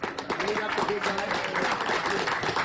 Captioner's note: applause